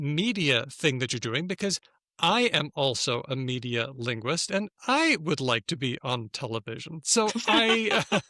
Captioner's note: laughter